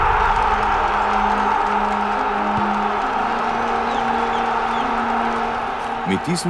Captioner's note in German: Applaus